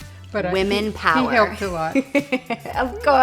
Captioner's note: laughs